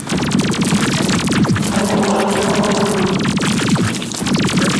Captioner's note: intense Battle Noises